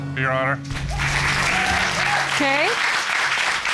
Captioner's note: cheers and applause